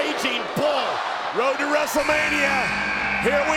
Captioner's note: buzzer buzzing